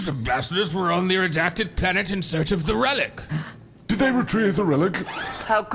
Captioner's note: gasps